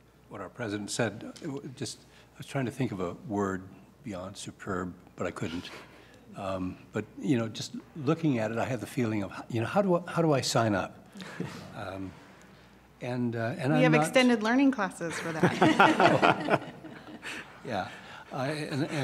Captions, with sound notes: I wanted to echo what our president said. I was trying to think of a word, superb, but I couldn't. Looking at it, how do I sign up? »: We have extended learning classes for that. (Laughter)